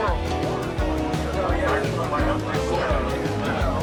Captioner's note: crowd noise